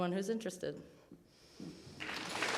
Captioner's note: audience applauding